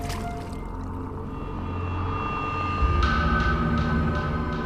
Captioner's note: eerie sound effects